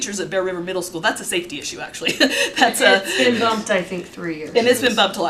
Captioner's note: laughter